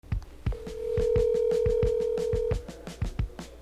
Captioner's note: phone ringing